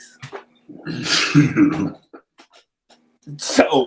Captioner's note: laughs